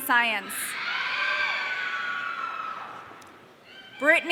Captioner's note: audience cheering